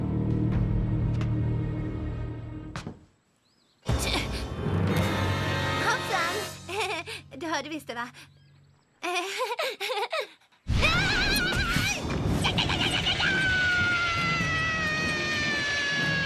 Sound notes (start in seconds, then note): 3.5 sneeze; 9.0 chuckles; 10.6 shouts